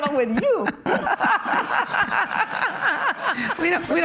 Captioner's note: laughing